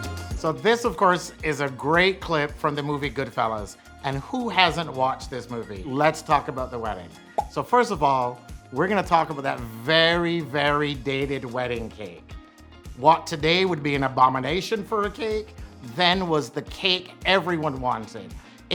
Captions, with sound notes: (energetic music) So this of course is a great clip from the movie "Goodfellas," and who hasn't watched this movie? Let's talk about the wedding. (bubble pops) So first of all, we're gonna talk about that very dated wedding cake. What, today, would be an abomination for a cake, then was the cake everyone wanted.